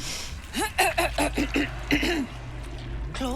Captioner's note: clears throat